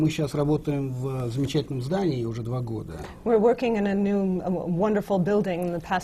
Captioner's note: foreign language not transcribed